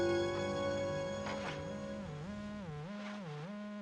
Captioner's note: line buzzing